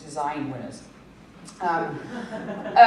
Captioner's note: laughter